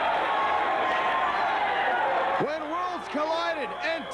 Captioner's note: crowd cheering